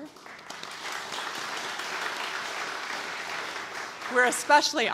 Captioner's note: audience applauds